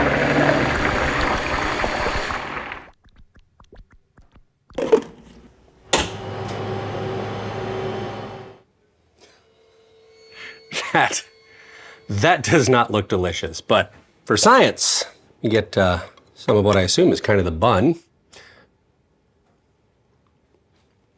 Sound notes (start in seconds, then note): 0.0 blender whirring; 3.1 liquid gurgling; 4.7 jars tapping; 5.8 centrifuge humming